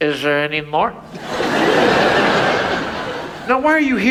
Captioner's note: audience laughs